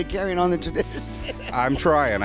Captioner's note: laughs